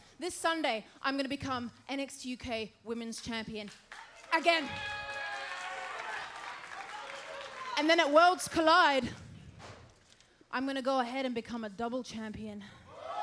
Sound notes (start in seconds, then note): 3.9 crowd cheers